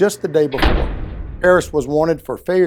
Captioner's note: door slamming